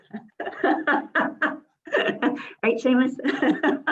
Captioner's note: laughs